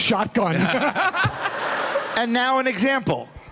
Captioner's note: laughter